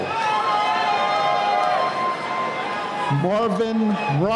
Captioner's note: cheering